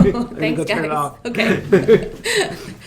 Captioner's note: laughing